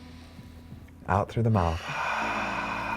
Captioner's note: exhales